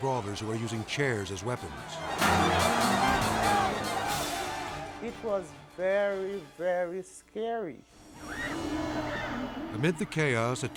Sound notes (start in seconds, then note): 1.6 crowd shouting; 1.8 dramatic music; 8.2 girl screaming